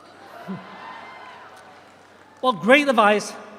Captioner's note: audience cheers